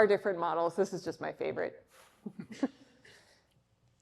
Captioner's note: laughs